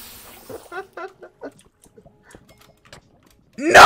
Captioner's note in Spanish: risas